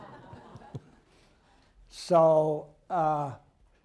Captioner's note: laughter